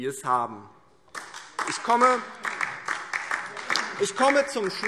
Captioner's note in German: Beifall DIE LINKE